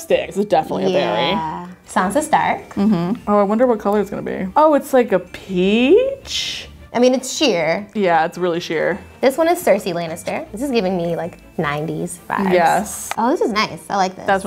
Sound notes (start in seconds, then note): none